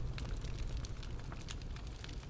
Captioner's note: fire crackling